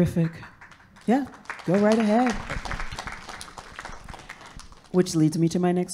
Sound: audience claps

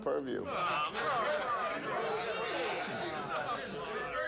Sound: crowd chatters

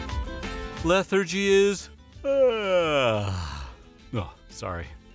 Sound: yawns

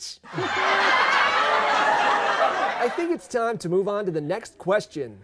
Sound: crowd laughing

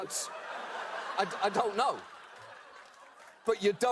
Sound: audience laughter

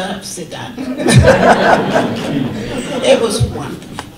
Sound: audience laughter

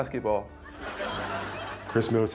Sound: crowd laughing

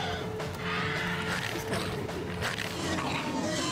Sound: chomp snap snap chomp

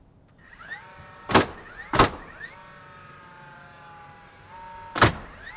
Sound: nail banging loudly

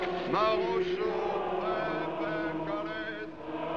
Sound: singing Continues; speaking French

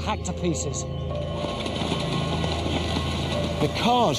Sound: suspenseful music; hooves thudding

